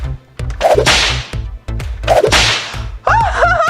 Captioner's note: doors whip